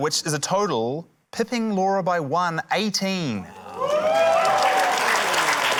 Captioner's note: cheering, applause